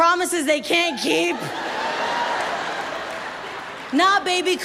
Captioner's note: audience laughs